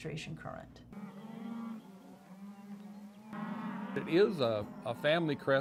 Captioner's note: cattle lowing